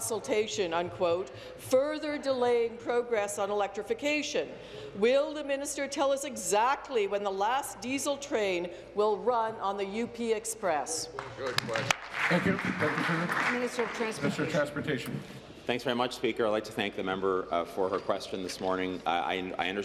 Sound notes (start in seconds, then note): 14.8 applause